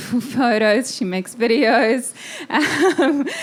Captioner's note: laughing